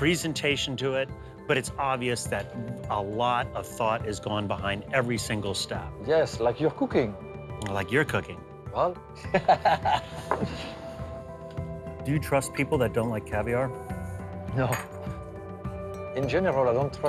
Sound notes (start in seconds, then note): 9.2 they laugh